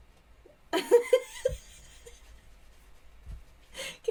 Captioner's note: laughs